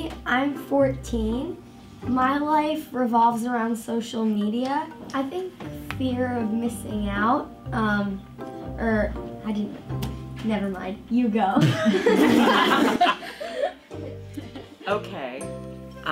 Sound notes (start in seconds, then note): 11.6 all laughing